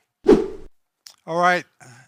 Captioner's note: whip sound